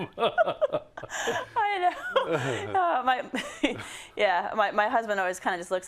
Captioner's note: laugh